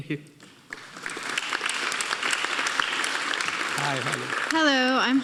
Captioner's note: audience applauding